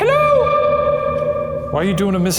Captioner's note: voice echoing